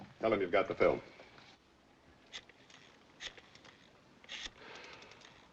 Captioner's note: phone dialling